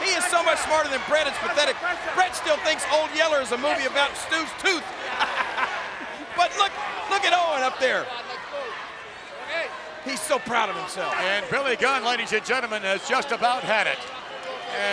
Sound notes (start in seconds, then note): 4.9 chuckles